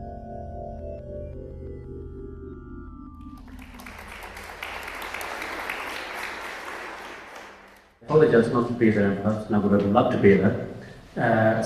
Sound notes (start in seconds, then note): 3.2 applause